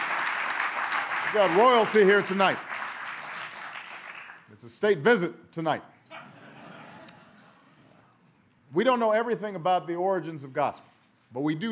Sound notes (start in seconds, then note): 6.1 laughter